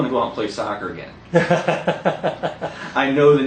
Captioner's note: hahaha... Interviewer laughing